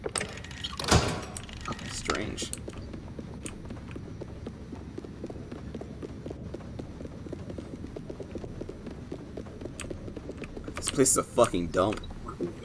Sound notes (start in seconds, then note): none